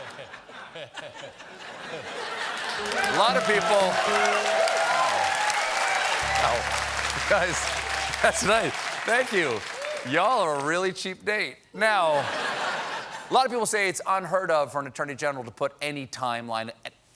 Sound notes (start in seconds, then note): 0.0 laughter; 0.9 applause